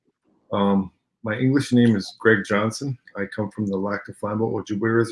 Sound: speaking Ojibwe

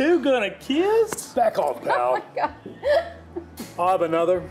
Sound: laughs

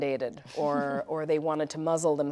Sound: chuckles

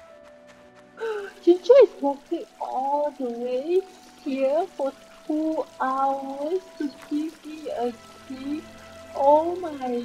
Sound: gasp

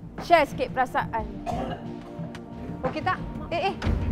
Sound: cough

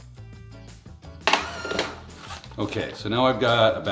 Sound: FoodSaver whirring

